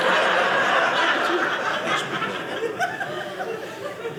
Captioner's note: audience laughing